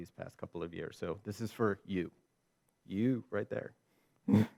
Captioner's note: chuckles